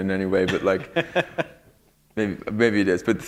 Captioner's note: laughter